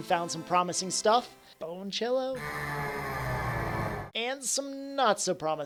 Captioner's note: scary Sound Plays